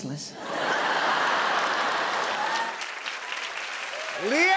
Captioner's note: laughter